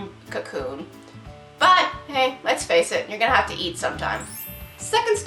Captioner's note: success trill